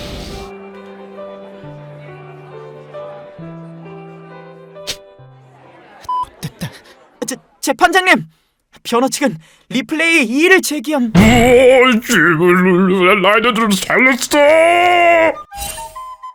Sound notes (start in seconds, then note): 11.1 sob